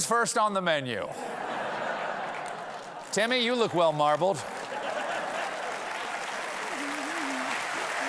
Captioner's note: laughter; applause; laughter